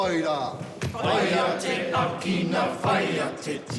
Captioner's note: all chant haka